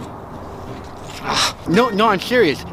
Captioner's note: grunting